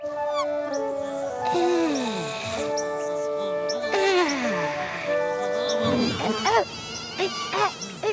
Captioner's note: Elanore sighs happily; she gasps in fright